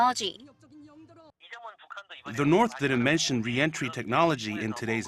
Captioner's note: Korean